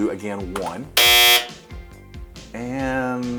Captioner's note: buzzer